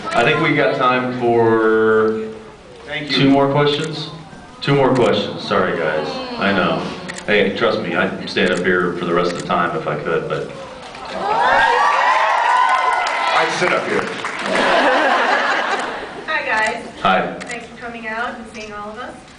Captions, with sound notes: I think we got time for... Thank you. two more questions? [scattered awws] Two more questions, sorry guys. [scattered awws] I know, hey, trust me, I’d stand up here for the rest of the time if I could, but... Sorry. [cheers] [cheers] I’d sit up here. [applauds] [laughs] Hi guys. Hi. Thanks for coming out and seeing all of us.